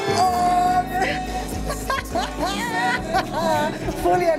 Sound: laughs

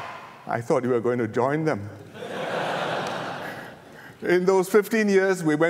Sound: laughter

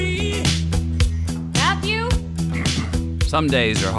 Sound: Coffee Barista yells Matthew, Matthew

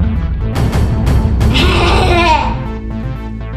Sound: laughs

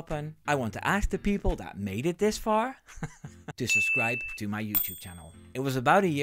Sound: haha

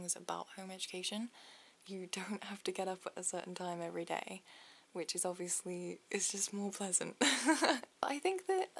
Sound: laughs

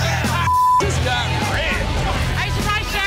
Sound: beep

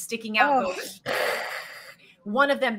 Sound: Deborah hisses

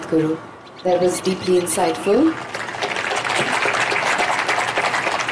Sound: applause

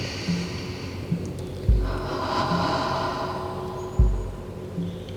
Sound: sound of inhale and exhale

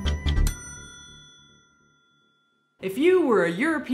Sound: dinging

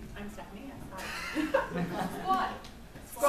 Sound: laughs

